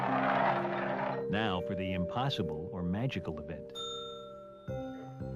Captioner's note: ding